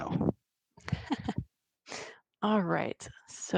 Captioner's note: chuckling